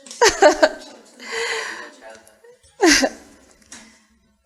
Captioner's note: laughter